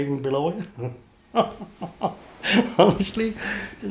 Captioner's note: laughs